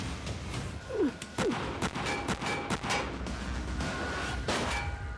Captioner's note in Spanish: continúa la balacera